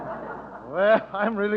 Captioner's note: audience laughter